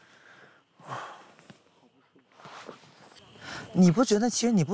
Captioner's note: another sigh